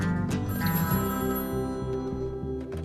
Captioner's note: PHONE RlNGlNG